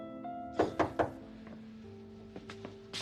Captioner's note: knock on door